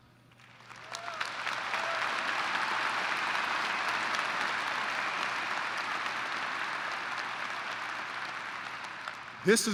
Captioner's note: applause